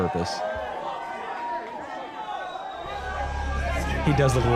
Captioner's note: crowd cheering and clamoring